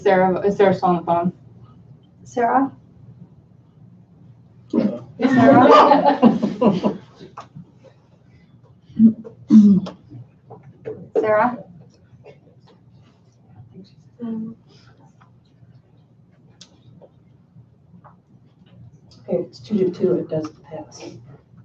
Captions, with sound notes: - Is Sarah still on the phone? - Sarah? (laughter) Sarah? - Okay, it's two to two, it doesn't pass.